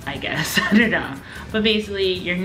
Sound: laughs

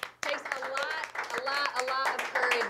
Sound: applauding

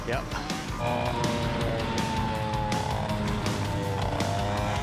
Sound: engines revving

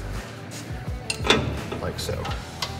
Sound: metal creak

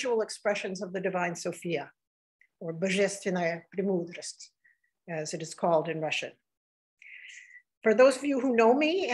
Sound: speaking russian

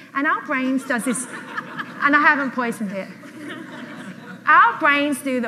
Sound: audience laughs

